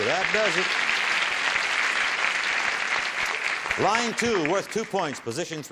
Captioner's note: applause